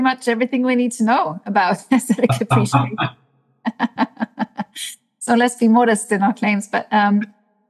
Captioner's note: laugh